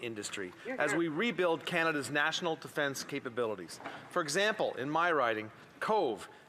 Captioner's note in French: voix de l'interprète